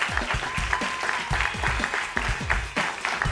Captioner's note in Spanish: aplausos